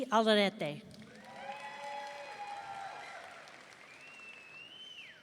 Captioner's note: audience cheering